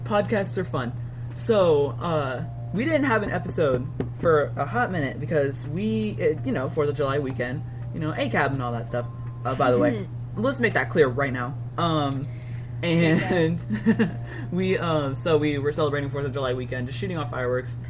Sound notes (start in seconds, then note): 9.9 laugh